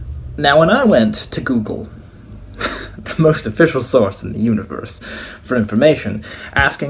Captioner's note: laughs